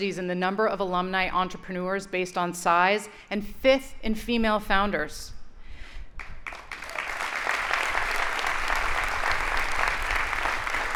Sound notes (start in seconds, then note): 6.2 audience applauding